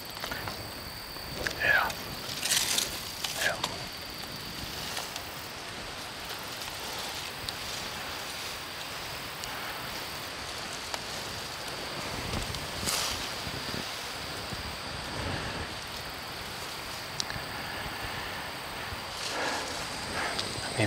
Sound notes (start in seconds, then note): 4.6 wind blowing, leaves crunching